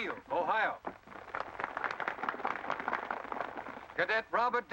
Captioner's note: crowd applause